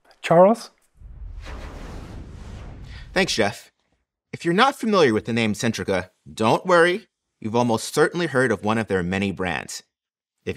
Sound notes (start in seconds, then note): 0.9 graphic whooshes